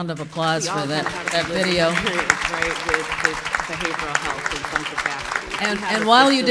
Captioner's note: applause